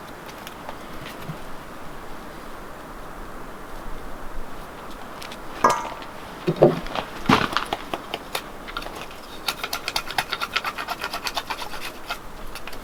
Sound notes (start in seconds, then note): 9.4 knife scraping